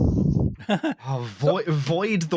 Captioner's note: briefest of laughs